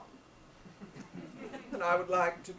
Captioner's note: audience laughs